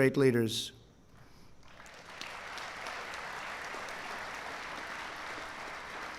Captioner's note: applause